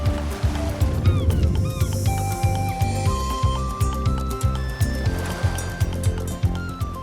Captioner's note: waves crashing; seagulls chirping